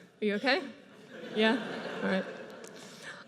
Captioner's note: audience laughs